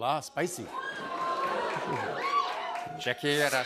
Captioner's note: audience oohs